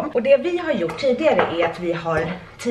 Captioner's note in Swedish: none